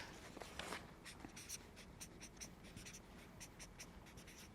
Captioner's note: marker scribbles